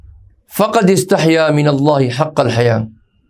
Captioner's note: Arabic